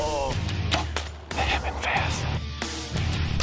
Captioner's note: gunshot